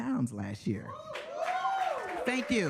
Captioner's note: audience cheering